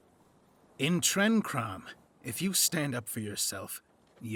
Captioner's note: none